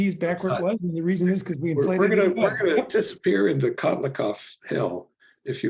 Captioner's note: laugh